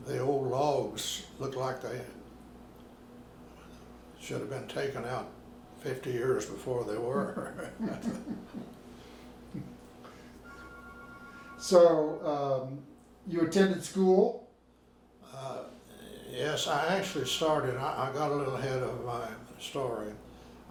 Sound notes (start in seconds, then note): 7.1 all laughing; 7.9 phone ringing